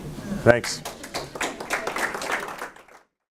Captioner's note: audience clapping